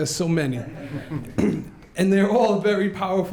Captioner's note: laughs